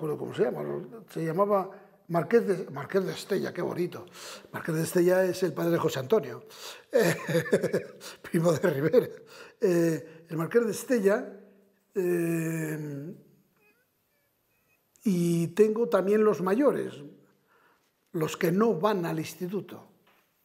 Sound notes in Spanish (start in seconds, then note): 7.0 Ríe